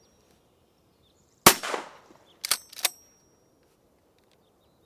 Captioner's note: gun shot